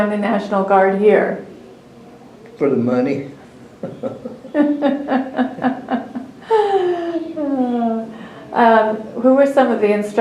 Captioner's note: laughter